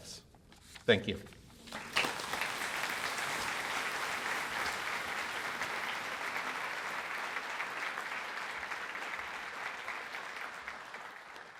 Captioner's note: applause